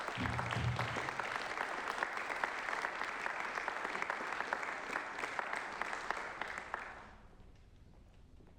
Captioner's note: applause